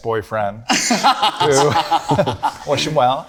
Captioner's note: group laughing